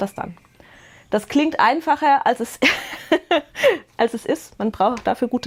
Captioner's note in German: Gelächter